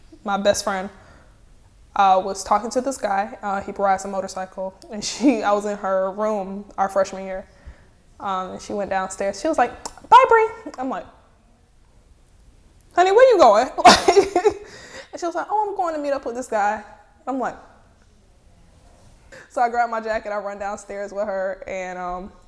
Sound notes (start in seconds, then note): 13.8 laughing